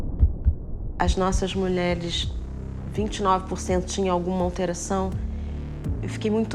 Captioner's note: heart beating; speaks in foreign language